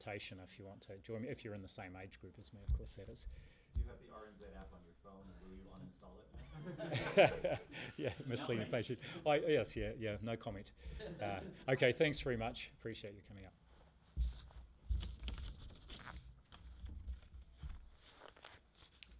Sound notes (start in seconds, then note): 6.5 laughs